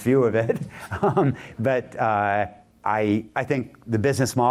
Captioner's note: laughter